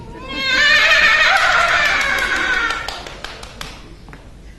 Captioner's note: Uma laughs hysterically